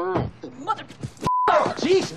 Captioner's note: beeping